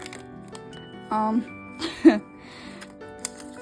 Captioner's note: laughs